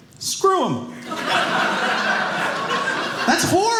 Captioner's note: audience laughing